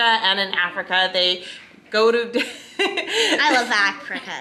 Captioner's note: laughs